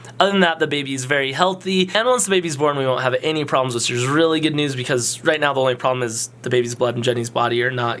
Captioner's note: none